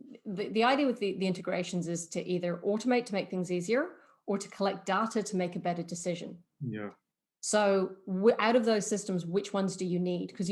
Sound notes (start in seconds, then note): none